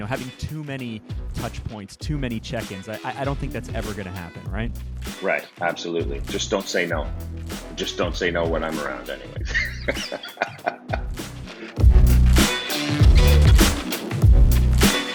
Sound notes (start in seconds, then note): 9.4 laughing; 11.9 upbeat rock music